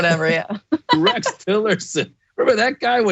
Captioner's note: laugh